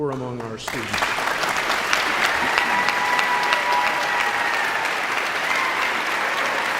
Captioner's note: audience cheering and applauding